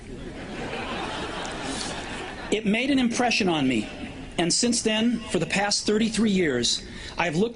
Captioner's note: laughter